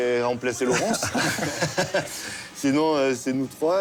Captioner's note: laughter